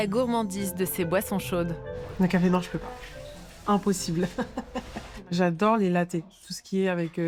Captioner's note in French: rires